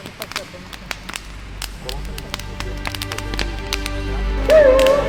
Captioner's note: fire crackling